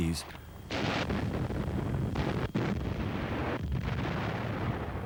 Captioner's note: explosions booming